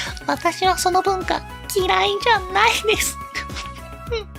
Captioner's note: laughs